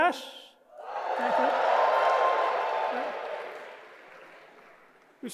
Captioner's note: audience cheering